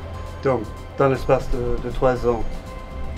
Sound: non-english speech

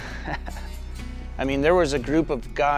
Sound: laughing

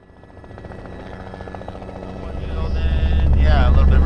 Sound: helicopter blades whirring

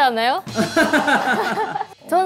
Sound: laughing

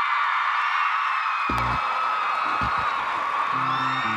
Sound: electric ground buzz

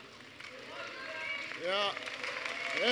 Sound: applause

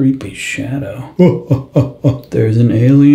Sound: monkey noises

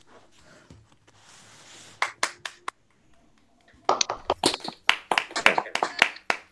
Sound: applause

